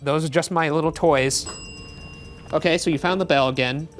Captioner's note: bell dings